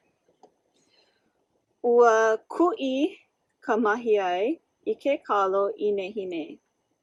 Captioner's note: student 2 speaks in native language